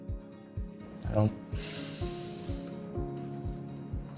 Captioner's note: exhaling sharply